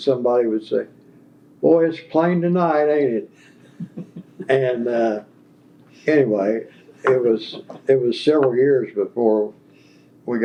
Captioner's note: laugher